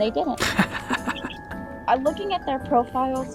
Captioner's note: chuckles